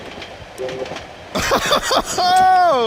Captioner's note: laughs